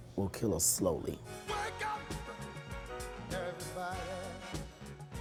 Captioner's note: voiceover